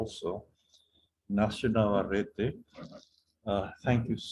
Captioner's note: non-english